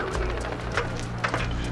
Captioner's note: helicopter whirring